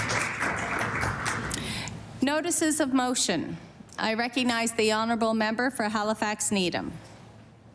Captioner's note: applause